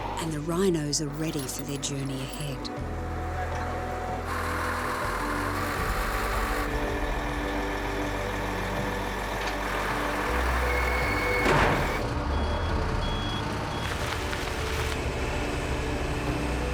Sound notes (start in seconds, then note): 4.5 lorry engine idling; 11.4 thud; 12.5 lorry reversing beeps